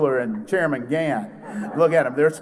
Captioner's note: laughter